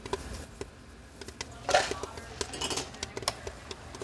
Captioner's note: popcorn popping